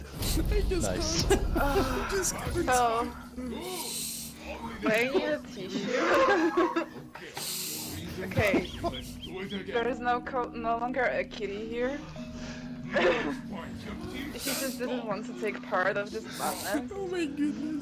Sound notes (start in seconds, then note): 5.6 laughter